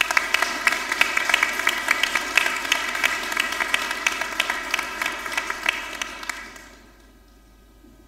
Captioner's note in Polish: oklaski